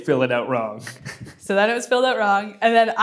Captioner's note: laughs